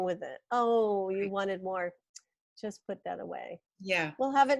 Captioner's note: tongue clicks